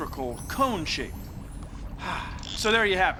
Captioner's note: sighs